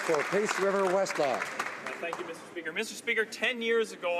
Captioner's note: applause